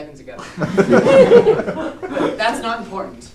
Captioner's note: laughter